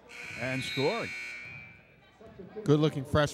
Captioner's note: buzzer sounds